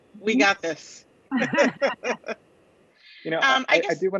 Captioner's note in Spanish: laughs